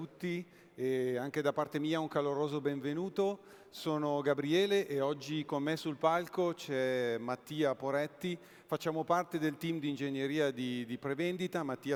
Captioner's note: speaking italian